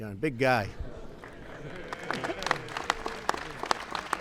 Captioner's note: laughter and applause